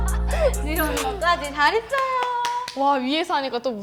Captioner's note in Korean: 박수